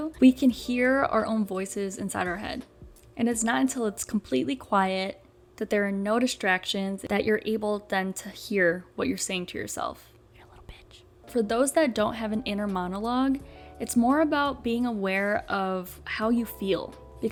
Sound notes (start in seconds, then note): 9.9 whisper